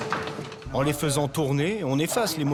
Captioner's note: foreign language spoken